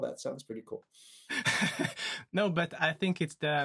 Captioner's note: laughs